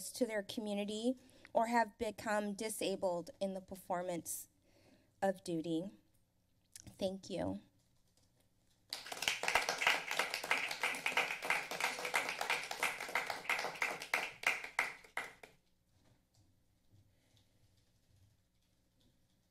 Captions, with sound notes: to their community or have become disabled in the performance of duty. Thank you. (applause)